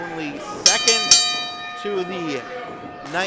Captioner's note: bell dings